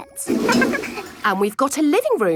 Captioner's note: toilet flush